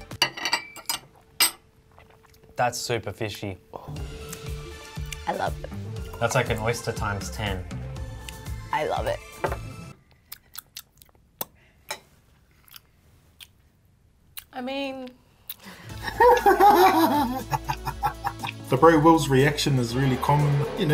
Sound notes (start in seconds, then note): 0.0 cutlery clangs; 10.0 chewing; 15.7 laughs